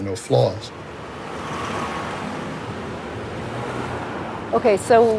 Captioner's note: city traffic buzzing